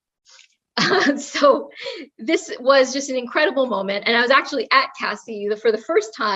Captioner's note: laugh